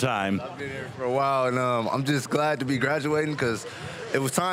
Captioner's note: none